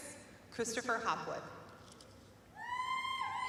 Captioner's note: cheering